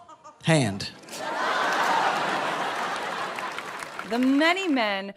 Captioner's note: people laughing